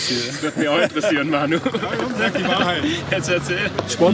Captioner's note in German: lachend